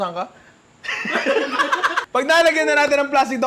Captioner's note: laughter